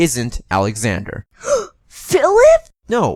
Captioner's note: gasp